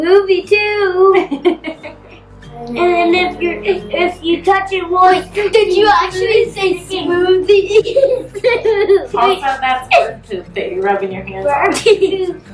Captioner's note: laughs